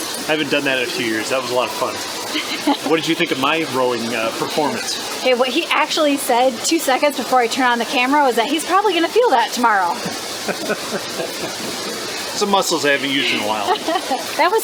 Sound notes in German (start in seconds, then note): 10.3 Gelächter